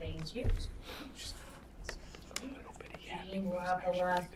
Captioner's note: students whisper